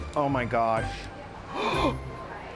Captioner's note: gasps